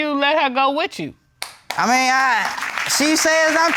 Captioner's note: audience clapping